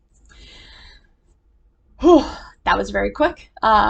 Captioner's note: inhales